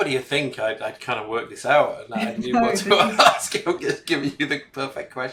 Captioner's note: laughing